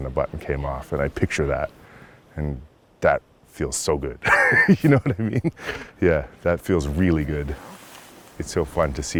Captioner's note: laughs